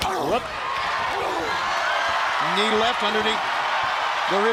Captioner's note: crowd cheering